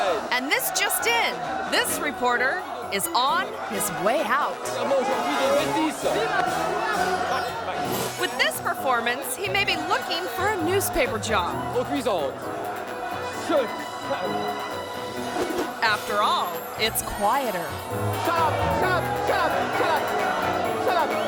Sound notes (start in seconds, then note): 0.0 crowd members yell; 4.7 crowd yelling continues; 11.7 news reporter speaks in foreign language